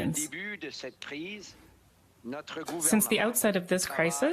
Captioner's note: speaking French